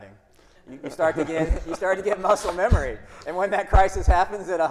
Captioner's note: everyone laughing